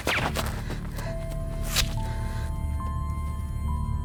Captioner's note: gun fires; dart whooshing; flesh squelching; dramatic music